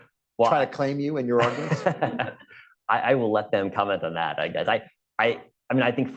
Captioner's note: laughter